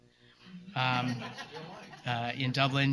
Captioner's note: laughter